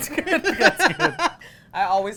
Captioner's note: laughing